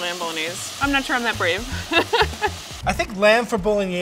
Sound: laughs

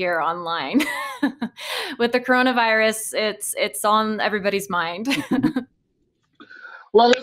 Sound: laughing

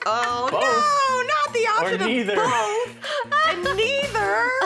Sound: chuckles

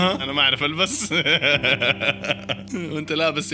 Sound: laughter

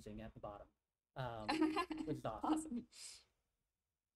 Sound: chuckles

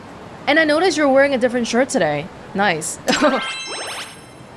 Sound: chuckles

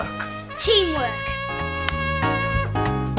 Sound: clap

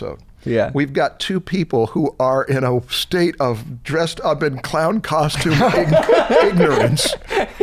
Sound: laughter

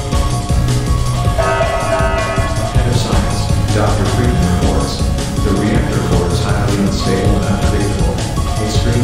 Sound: announcement Chime

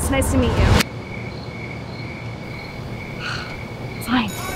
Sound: cricket sounds

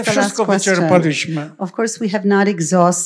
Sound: foreign language

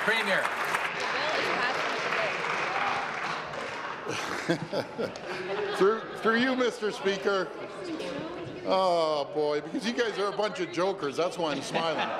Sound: applause

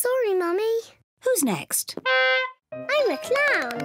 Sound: horn honks

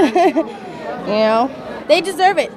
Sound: chuckles

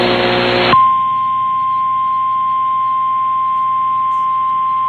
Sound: 1050 HZ tone

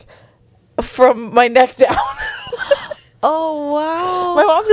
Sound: laughs

